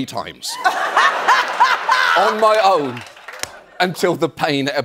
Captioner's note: laughs